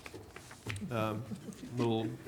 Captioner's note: group chuckling